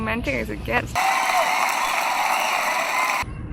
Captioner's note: clapping